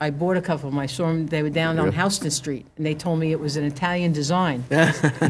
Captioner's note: laughhter